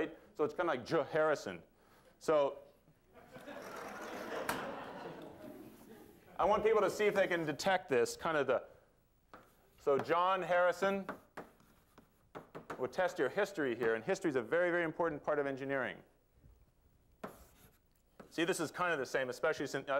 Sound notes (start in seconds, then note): 3.1 laughter